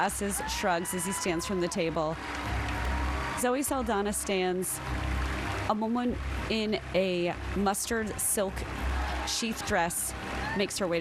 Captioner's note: cheers and applause